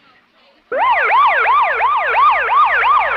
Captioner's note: police siren